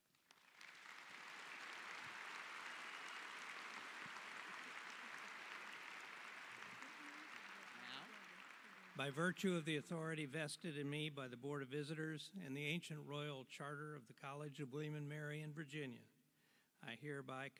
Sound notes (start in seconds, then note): 4.5 applause